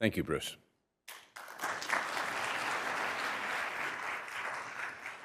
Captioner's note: applause